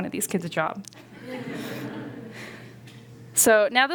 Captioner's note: laughter